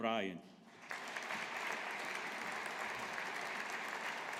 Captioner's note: audience applauding